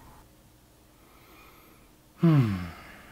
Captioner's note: relieved sigh